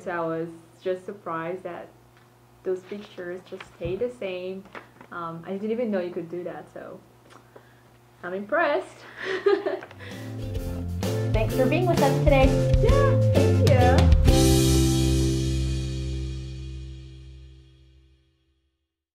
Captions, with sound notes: I was just surprised at those pictures, they stayed the same, I didn't even know you could do that. So I'm impressed. (laughs) - Thank you for being with us today. - Yeah, thank you. (upbeat music)